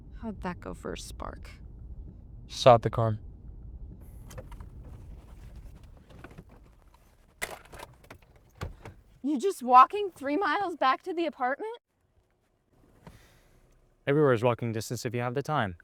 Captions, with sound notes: How'd that go for a spark? - Stop the car. [clicking sound] [shuffeling] [clicking sound] [car door opens] - You just walking three miles back to the apartment? - Everywhere is walking distance if you have the time.